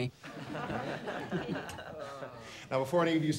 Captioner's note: class laughs